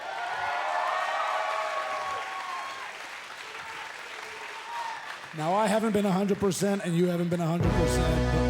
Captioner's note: cheers and applause